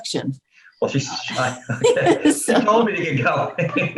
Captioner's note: laughing